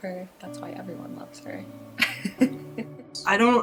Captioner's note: laughs